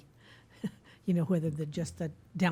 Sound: chuckles

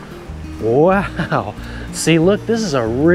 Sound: chuckles

